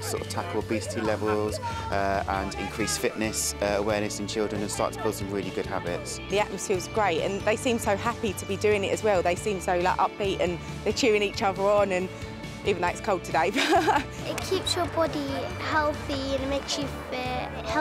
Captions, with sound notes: to sort of tackle obesity levels and increase fitness awareness in children and start to build some really good habits. - The atmosphere is great and they seem so happy to be doing it as well, they seem so upbeat and they're cheering each other on even though it's cold today. (laughs) - It keeps your body healthy and makes you fit.